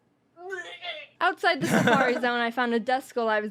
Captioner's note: chuckles